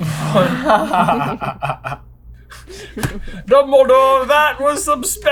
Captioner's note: laughter